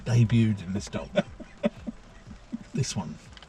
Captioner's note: chuckling